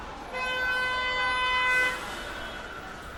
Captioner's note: car honks